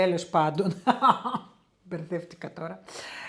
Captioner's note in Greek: γέλια